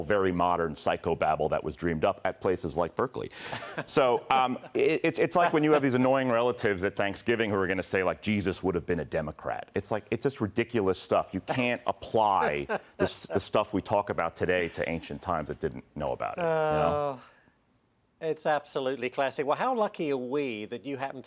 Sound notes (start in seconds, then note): 10.3 laughter